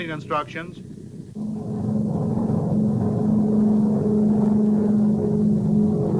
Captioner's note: plane engine roaring